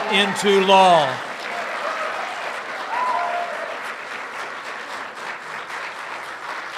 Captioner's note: applause